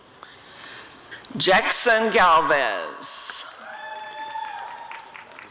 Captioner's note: applause and cheering